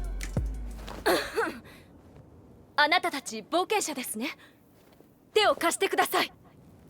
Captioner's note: ahem